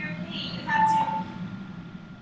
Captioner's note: phone beeping